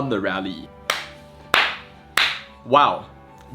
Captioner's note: clap clap clap